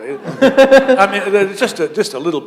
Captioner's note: laughter